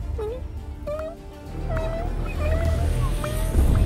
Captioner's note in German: immer nervöser werdende Geräusche